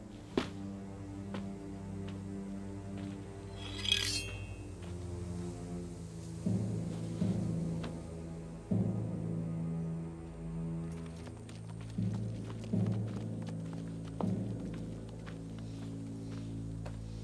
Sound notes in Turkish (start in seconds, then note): 3.5 Kılıç çekme sesi